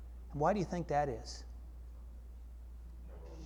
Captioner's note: audience chatter